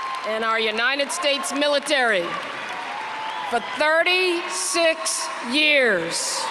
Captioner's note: applause